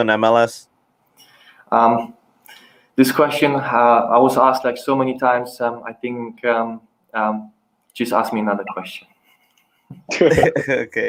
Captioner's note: risos